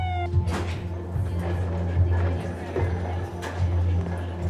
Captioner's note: heart monitors beeping, nurses and doctors talking